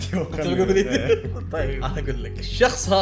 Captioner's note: laughs